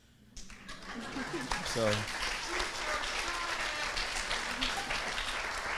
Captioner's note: audience laughing and clapping